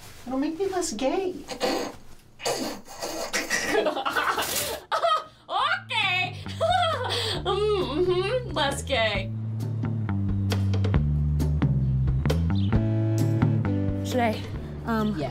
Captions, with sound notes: It'll make me less gay. (snort) (laughter) Ha! Okay! Ha ha ha Mmhmm. Mhmm. Less gay.